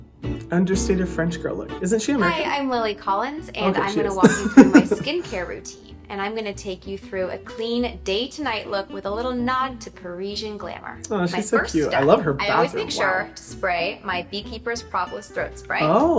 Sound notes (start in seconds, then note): 4.1 laughing